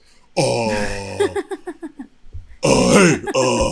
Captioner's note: laughter